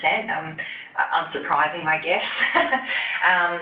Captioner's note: laughs